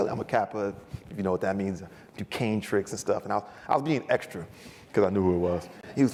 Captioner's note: none